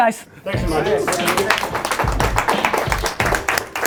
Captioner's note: applauding